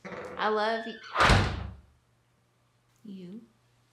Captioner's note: door slams